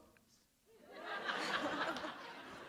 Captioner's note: laughter